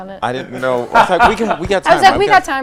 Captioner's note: laughs